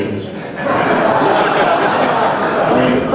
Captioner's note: crowd laughing